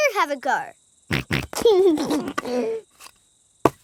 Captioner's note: snorts and laughs